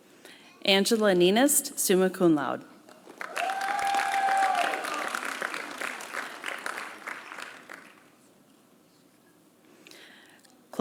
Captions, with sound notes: Angela Neinast, Summa Cum Laude. (applause)